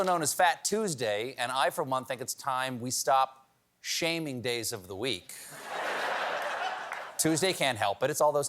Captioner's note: laughter